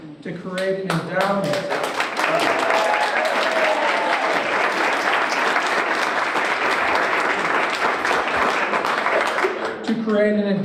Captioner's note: applause